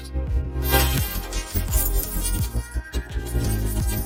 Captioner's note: keys jingling; curious music plays